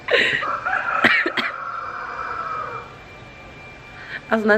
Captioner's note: rooster crowing